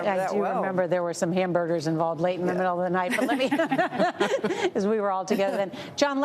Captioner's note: laughs